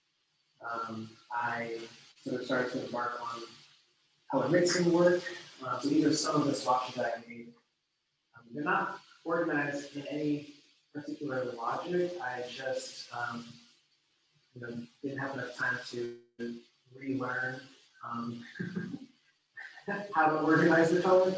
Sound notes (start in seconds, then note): 13.2 laughs